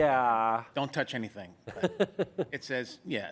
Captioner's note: laughter